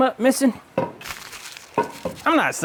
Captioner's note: splashing